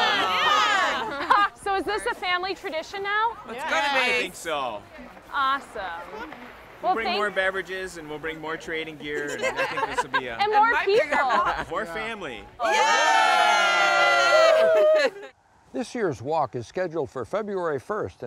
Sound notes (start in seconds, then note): 9.0 group laughing